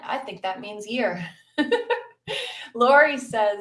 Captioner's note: laughs